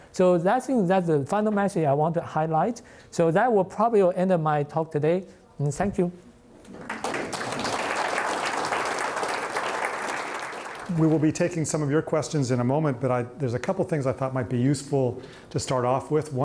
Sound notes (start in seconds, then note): 6.8 applause